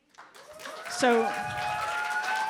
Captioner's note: applause